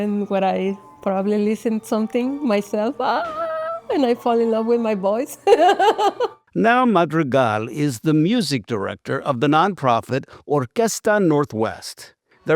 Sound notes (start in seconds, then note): 3.5 yells; 5.4 laughs